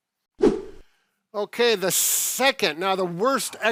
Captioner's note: screen whooshing